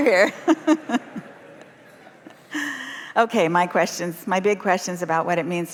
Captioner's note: laughter